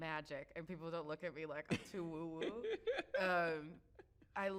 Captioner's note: chuckles